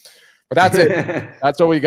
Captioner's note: laughing